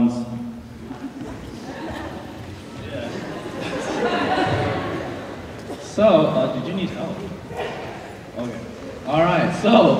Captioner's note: laughter